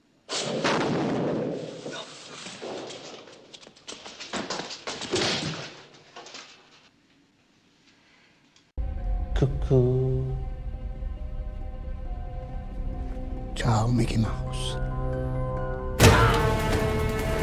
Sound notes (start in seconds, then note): 0.2 Swish; 0.4 thud; 1.4 Swish; 1.9 frantic, sporadic footsteps; 4.9 thud; 8.0 heavy breathing